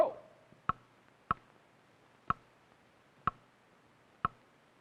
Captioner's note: clock ticking